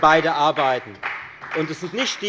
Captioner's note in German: Beifall bei der FDP